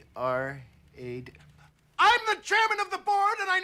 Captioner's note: shouting